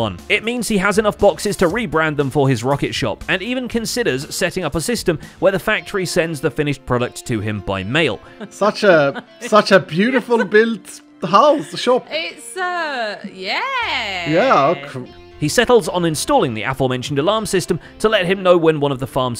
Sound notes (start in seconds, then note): 11.2 laughing